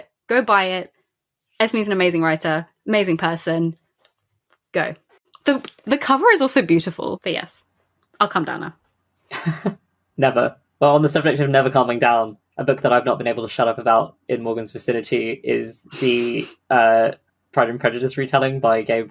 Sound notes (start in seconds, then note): 9.3 laughs